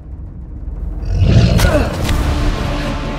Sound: monster Grunts

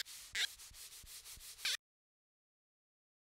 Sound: marker on white board

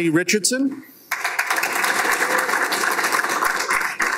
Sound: applause

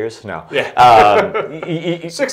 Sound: laughing

